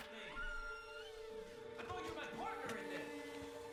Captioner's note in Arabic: يفتح الباب; صراخ من مسافة بعيدة; يستمر الصراخ